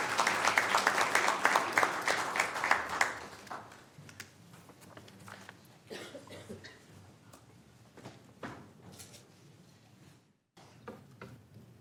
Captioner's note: applause